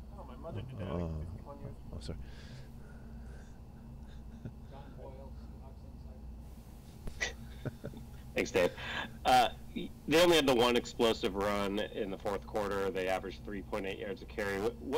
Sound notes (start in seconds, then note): 7.2 laughs